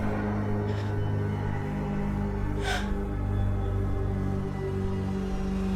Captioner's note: Casey breathing heavily